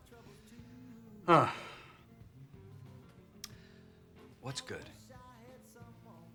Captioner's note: sighs